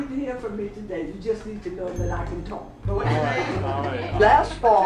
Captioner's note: laughs